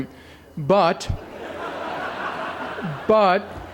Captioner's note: laughter